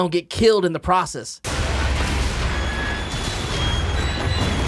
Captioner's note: explosions; metal scraping